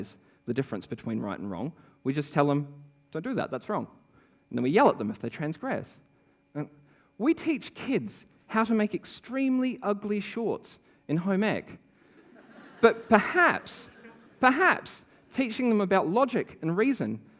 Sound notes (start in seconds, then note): 12.0 laughter